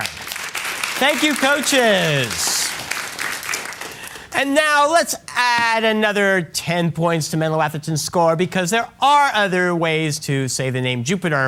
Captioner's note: applause